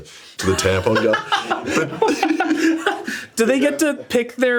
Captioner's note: group laughs